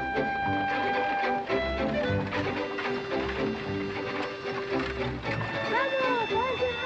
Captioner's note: horse and buggy approaching; children yelling excitedly